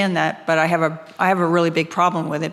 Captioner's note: none